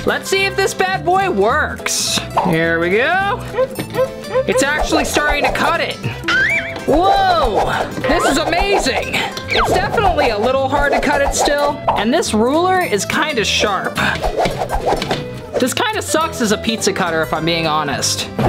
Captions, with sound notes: Let's see if this bad boy works. Here we go. (cutter squeaking) It's actually starting to cut it. Whoa, this is amazing. It's definitely a little hard to cut it still. And this ruler is kind of sharp. This kind of sucks as a pizza cutter, if I'm being honest,